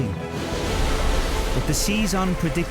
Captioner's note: water crashes